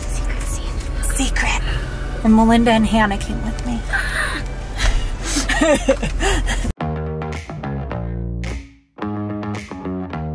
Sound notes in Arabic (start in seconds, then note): 4.8 زوجة هارون تضحك; 6.9 موسيقى مبهجة